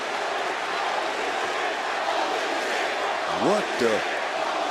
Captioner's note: crowd chants